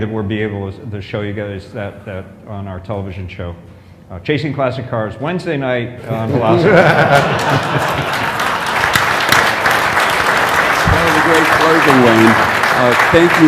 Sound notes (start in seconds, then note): 6.1 laughter; 7.0 applause